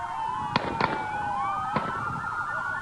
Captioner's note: gunshots